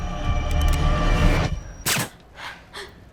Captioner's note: cocks gun